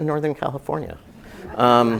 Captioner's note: laugh